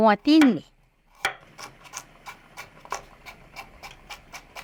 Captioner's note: knife chopping